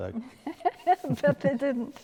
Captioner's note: laughing